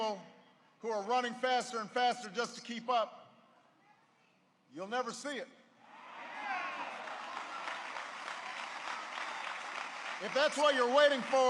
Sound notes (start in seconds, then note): 6.4 applause